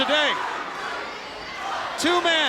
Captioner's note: crowd cheering